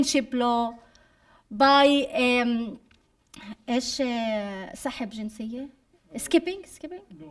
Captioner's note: speaking arabic